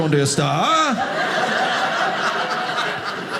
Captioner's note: audience laughing